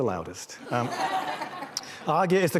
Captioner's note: laughter